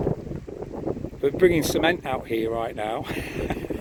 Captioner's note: laughs